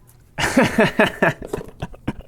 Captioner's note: laughs